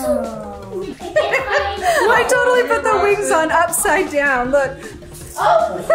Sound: laughing

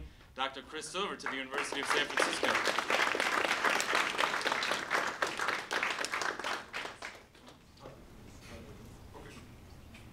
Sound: applause

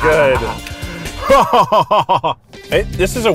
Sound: laughing

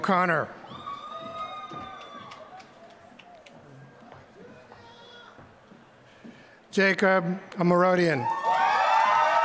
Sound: applause; applause

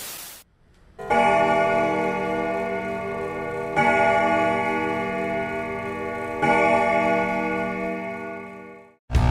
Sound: clock Chime

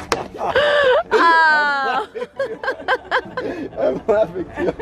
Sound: laughs

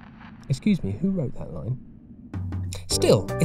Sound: off-mic

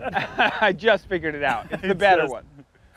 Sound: laughter

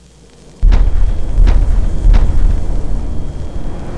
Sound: logo whooshing

